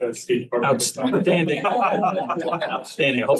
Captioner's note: laughter